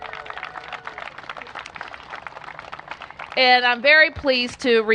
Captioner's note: cheers and applause